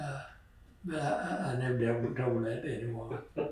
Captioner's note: laughter